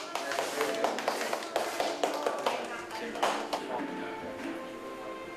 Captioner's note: applause